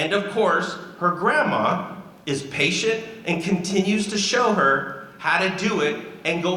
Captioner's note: none